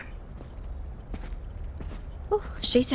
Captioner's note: footsteps receding